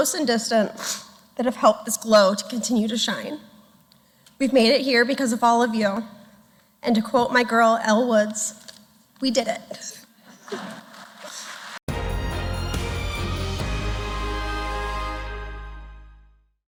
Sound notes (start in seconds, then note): 10.4 applause